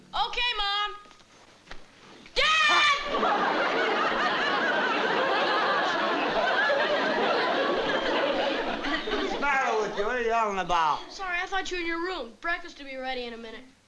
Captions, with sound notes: OK, Mom. (SCREAMING) Dad! What's the matter with you? What are you yelling about? I'm sorry. I thought you were in your room. Breakfast will be ready in a minute.